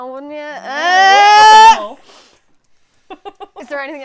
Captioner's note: jeering on both sides